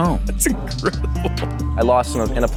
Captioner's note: laughs